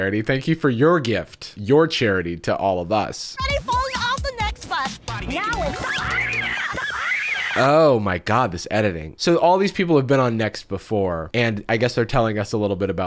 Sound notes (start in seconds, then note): 5.9 screaming